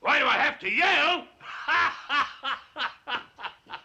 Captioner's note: laughs